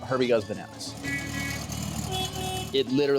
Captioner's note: car horns honking